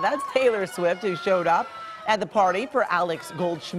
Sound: cheers and applause

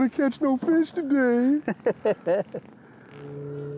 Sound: laughs

